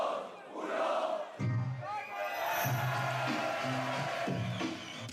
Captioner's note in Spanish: Aplausos y vítores